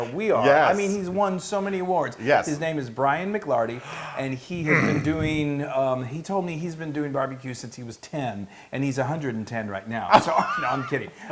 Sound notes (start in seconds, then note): 10.1 laugh